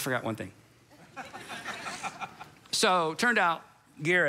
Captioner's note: congregation laughs